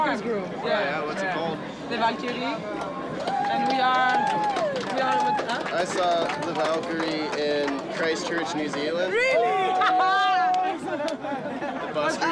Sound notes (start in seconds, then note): 2.7 crowd cheering and clapping; 8.9 laughing